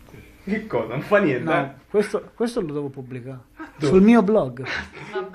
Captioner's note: laughs